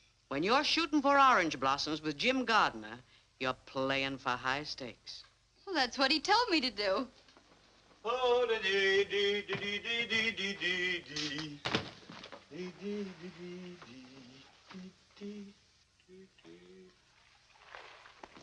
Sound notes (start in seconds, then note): 8.0 humming " "